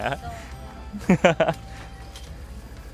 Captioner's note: laughter